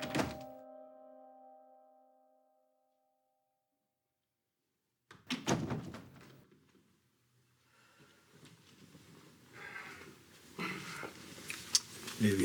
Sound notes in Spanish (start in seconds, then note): 0.0 Ruido de la puerta